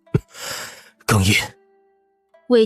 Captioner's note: choking up